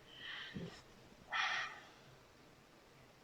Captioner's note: painful grunts